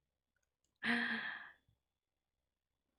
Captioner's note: gasps